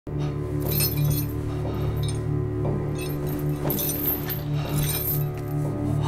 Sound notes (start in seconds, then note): 0.6 chains rattling; 4.3 panicked breathing